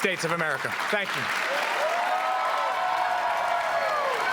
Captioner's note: cheering and applause